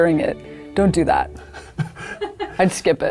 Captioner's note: people laughing